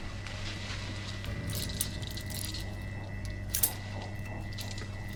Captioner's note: sound of unlocking handcuffs